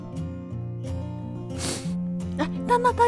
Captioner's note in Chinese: 鼻涕聲